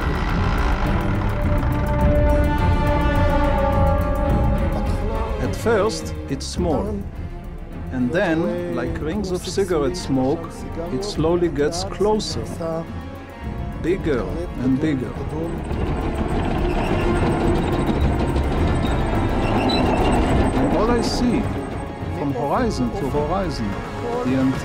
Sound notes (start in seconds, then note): 0.1 dramatic music; 15.8 suspenseful music; 15.8 tanks rattling